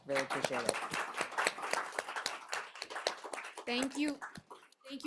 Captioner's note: attendees applauding